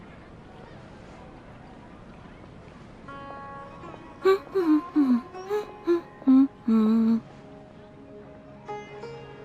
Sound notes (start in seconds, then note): 4.2 hums